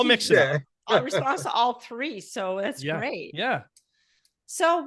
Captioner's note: murmurs